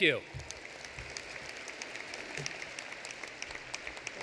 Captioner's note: applause